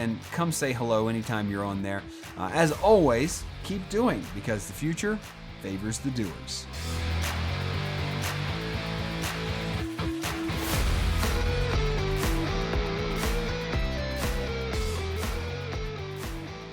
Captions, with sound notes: and come say hello anytime you're on there. As always, keep doing, because the future favors the doers. (upbeat rock music) (rhythmic clapping)